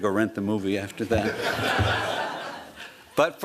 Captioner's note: laughter